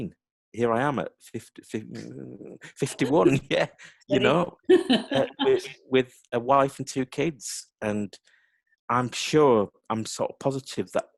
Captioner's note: laughter